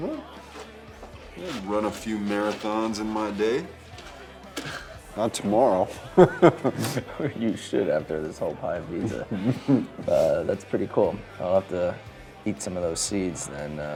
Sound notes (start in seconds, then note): 5.8 chuckles; 6.0 Drew laughs